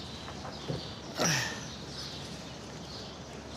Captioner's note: grunts